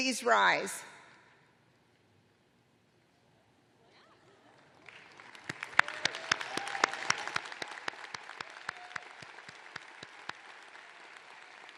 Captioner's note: applause